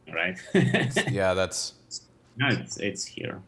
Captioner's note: laughs